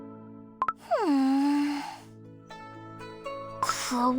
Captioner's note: groans